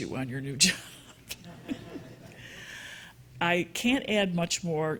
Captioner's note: audience chuckling